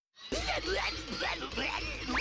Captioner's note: grunting